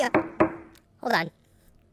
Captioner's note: knock on the door